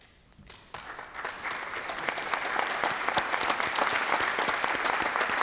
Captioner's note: applause